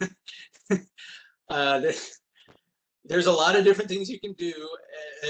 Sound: laughs

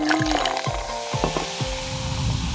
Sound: sizzling

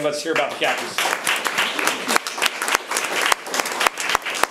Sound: room applauds

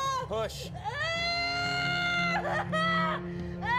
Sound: screaming

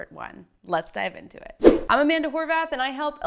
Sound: animation whooshes

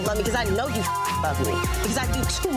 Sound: beeps

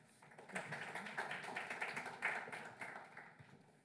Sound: applause

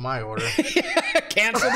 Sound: laughter

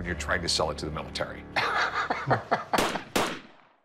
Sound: laughs

